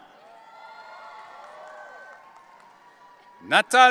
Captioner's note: audience cheering